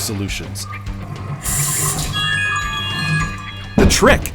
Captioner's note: smart notification chimes